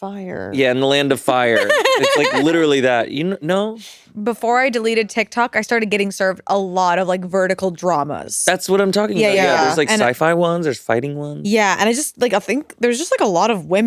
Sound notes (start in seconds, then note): 1.5 giggling